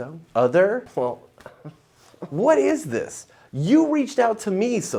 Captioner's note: groans